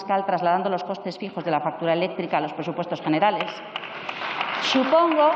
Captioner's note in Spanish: Aplausos